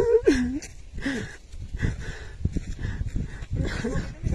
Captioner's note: a man crying